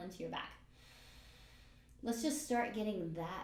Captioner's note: breathes in